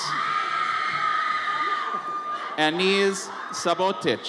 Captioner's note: audience members scream